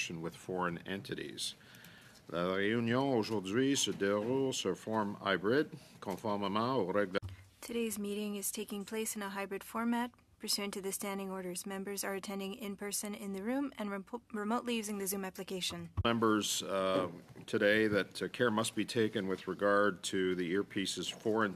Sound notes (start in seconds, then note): 7.5 speaking French